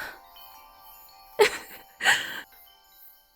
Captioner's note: giggling